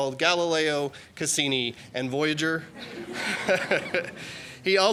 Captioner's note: laughter